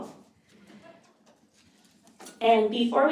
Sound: audience laughing

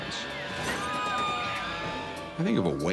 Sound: people screaming

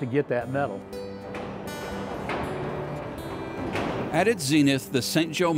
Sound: banging

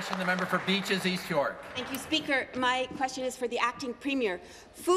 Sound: applause

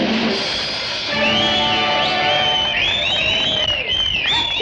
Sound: crowd cheers

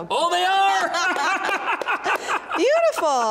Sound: laughing

